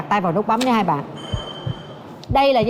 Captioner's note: heart pounding sound